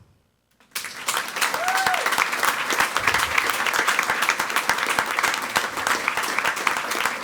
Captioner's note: people clapping; person cheering